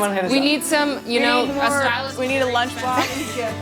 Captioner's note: all speak excitedly